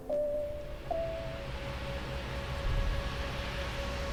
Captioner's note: motor bus humming